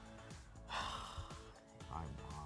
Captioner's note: sighs